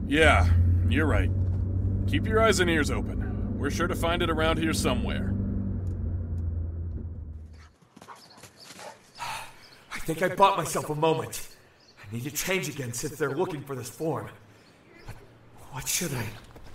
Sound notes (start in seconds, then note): 5.9 dog panting